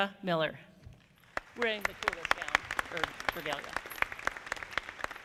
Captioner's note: audience clapping